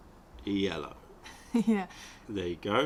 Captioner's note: laughter